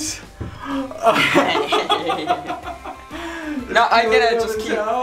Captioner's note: laughs